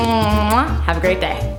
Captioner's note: kisses